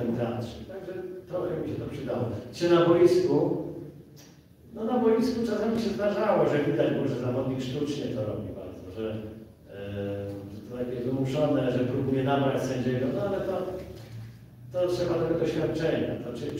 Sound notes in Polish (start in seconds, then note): none